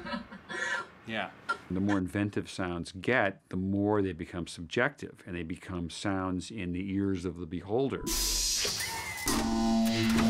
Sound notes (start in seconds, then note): 7.9 whooshing; 8.2 mechanical whirring